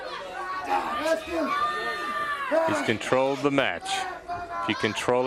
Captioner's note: crowd chatter